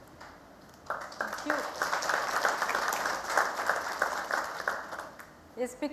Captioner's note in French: Applaudissements